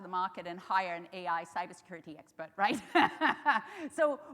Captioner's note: laughs